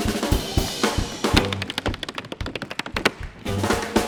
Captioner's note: footsteps thudding; drums banging